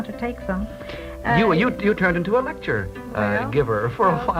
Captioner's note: voiceover